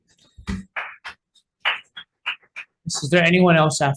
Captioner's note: constituent clapping